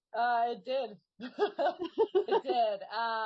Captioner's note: laughing